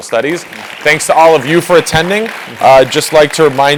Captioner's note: applause